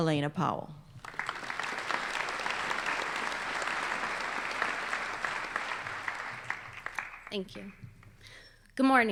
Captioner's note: applause